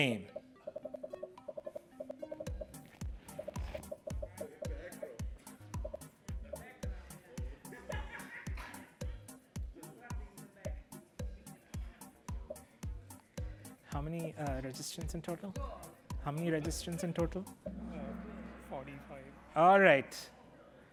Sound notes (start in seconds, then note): 4.2 chatter